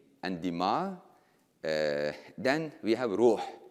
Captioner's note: speaking in foreign language